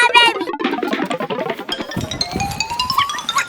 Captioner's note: pixelated blooping; alternating piano keys